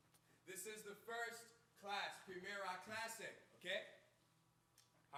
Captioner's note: speaks in Spanish